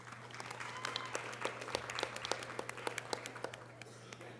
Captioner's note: audience applause